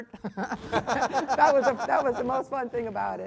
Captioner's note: Tara laughing